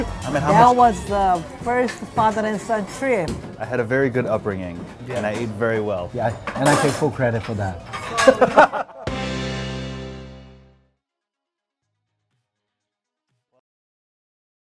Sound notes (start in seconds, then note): 8.0 laughter